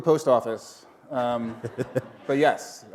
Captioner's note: laughter